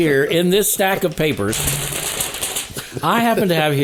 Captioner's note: papers rattling